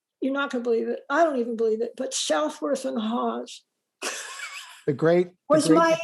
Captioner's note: laughs